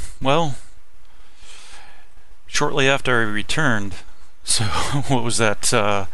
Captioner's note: laughing